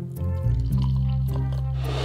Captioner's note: dairy free milk pouring